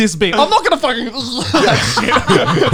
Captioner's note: gagging; men laugh